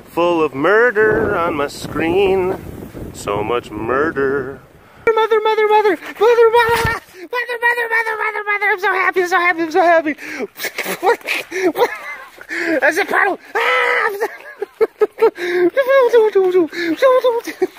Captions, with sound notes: full of murder on my screen. So much murder. Mother, mother, mother! Mother, mother- ah! Mother, mother, mother, mother, mother I'm so happy, I'm so happy, I'm so happy! (laughing) It's a puddle! Aaahhh! (laughing)